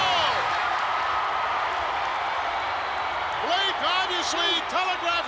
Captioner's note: crowd cheers